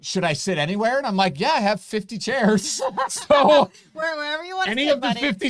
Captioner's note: laughing